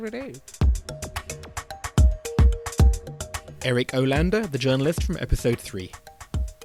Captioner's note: voiceover